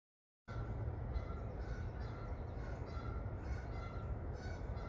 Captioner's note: birds cawing